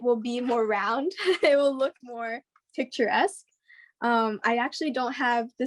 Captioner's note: laughs